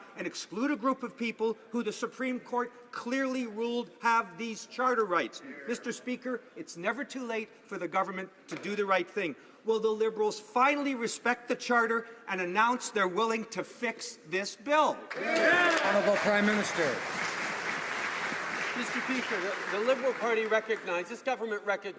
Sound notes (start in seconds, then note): 18.5 some Applause